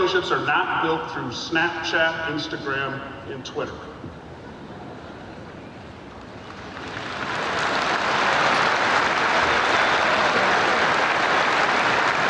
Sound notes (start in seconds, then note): 6.4 audience applauding